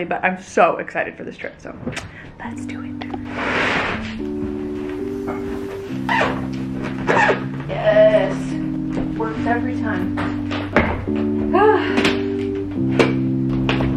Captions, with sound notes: but I'm so excited for this trip. So lets do it. (soft music) (zippering) Yes, works every time.